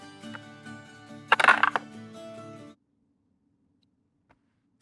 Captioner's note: dice rattling